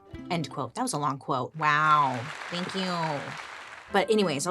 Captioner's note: crowd applauding